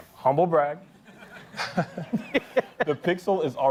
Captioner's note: laughter